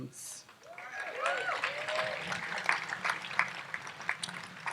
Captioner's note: audience applauds